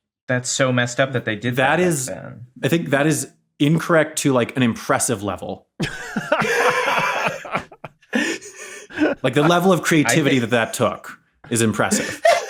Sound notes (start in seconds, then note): 5.8 wheezes; 5.8 laughs